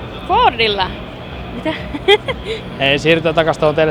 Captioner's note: akward gigling